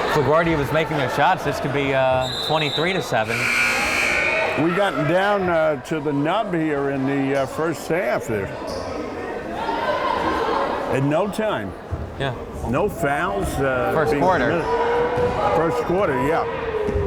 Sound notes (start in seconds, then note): 3.3 timer buzzes